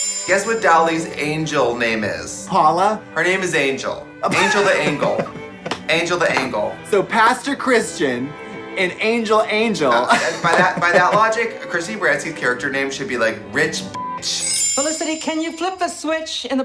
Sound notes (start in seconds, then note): 4.3 woman laughs; 9.8 laughs; 14.0 beeps